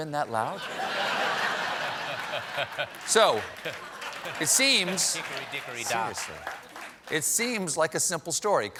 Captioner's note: laughter